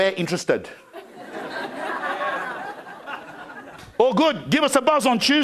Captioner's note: crowd laughing